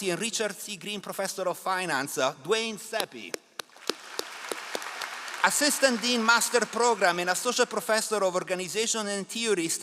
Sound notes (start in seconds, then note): 3.6 all applauding